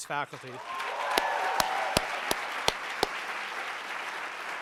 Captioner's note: applauding